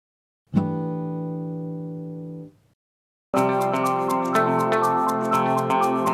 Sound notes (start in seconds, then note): 0.7 chime sounds; 3.3 upbeat music